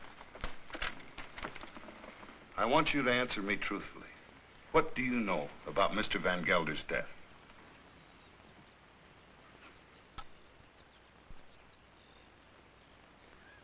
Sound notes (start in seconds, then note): none